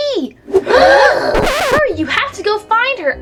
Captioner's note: gasp